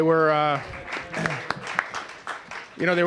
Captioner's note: applause